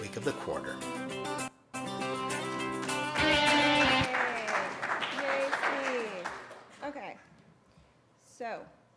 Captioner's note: applause